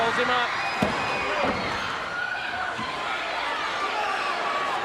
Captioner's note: crowd chatter